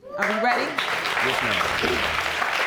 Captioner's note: audience cheering